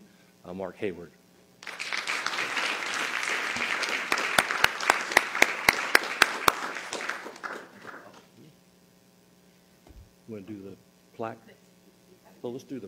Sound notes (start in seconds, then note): 6.3 applause